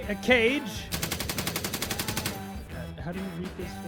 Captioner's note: heavy Machine Gun firing